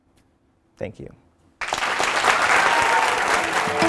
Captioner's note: applause